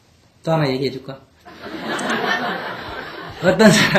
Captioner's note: audience Laughter